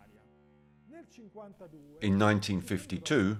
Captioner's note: speaking in foreign language